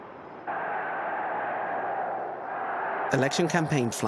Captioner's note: crowd cheering